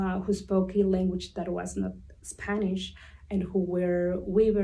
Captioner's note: none